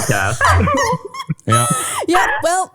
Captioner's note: laughing